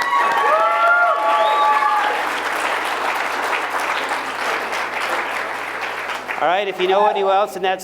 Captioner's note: applause